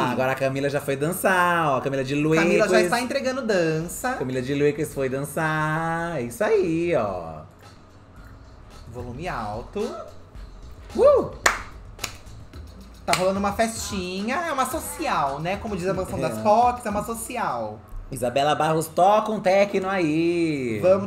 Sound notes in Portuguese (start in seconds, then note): 7.5 música animada; 11.4 palmas